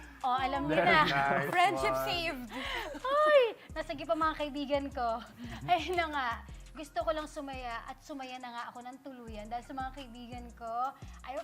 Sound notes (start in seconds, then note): 2.9 exclaims